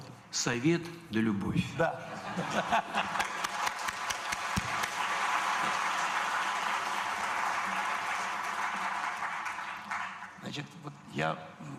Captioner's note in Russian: Смех